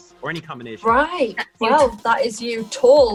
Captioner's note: laughs